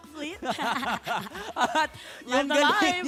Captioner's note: both cackling